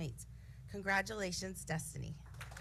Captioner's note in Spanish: aplausos